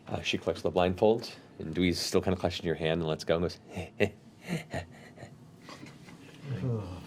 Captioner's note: creepy chuckle